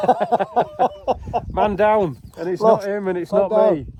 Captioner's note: laughter